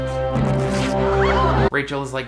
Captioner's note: crowd gasps